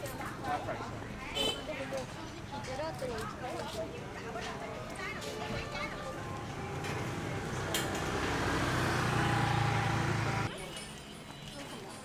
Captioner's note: people Chattering